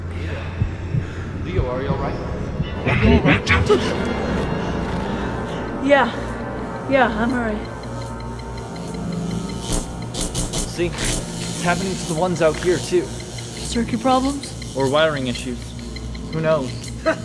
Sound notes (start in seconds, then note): 2.9 distorted; 9.1 electrical buzzing and beeping